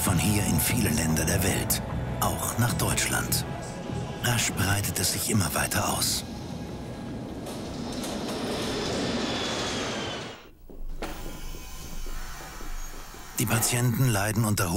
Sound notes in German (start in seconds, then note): 6.6 Flugzeug startet; 8.5 Zug fährt